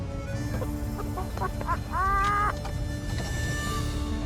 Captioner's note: laughter